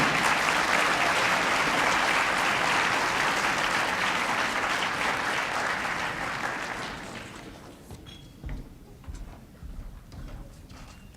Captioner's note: applause